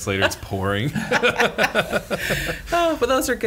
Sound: laughter

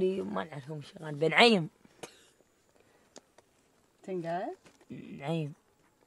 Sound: group speaking in foreign language continues

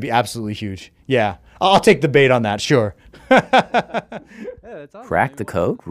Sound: laughs

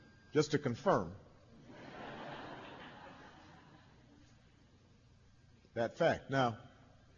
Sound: laughter

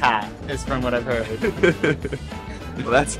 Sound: chuckling

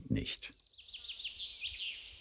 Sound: birds chirping

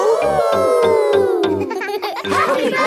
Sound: howling; all howling

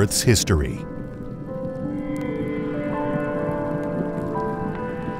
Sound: lava sizzling

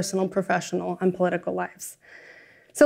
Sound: none

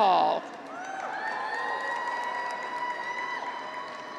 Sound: graduates cheer

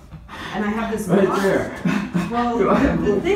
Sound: laughter

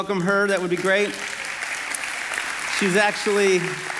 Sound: congregation clapping

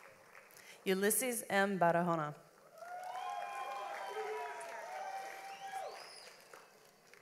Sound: audience applauds

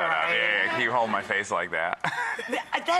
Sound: laughing

